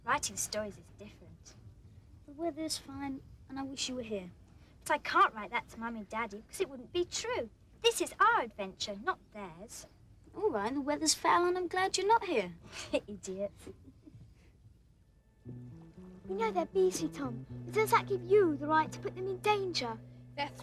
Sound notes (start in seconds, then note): 13.4 laughs